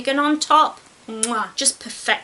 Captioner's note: mwah